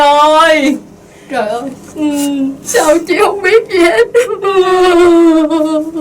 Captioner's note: crying